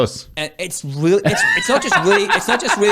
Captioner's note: laughing